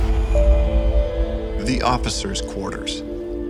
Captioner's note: voiceover